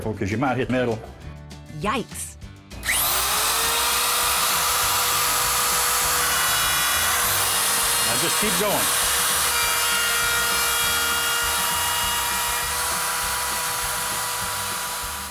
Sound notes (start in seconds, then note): 3.1 power tool; 9.8 power tool